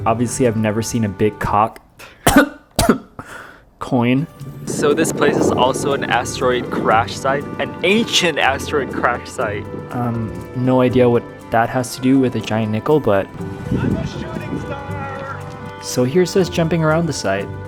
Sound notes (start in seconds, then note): 2.2 coughs